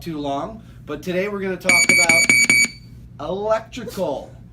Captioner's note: alarm sounds